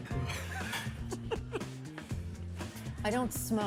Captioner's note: Jerry laughs